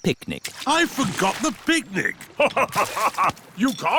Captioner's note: laughs